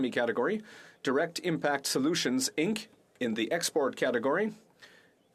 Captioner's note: speaking French